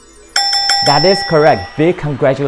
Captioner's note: bell rings